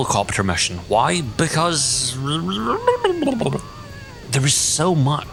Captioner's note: noises that resemble Dr. Zoidberg when he goes for a scuttle